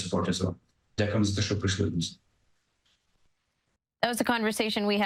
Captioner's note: speaking ukrainian